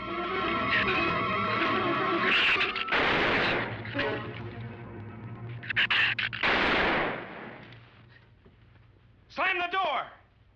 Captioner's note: gunshots